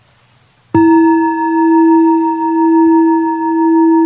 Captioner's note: bell chiming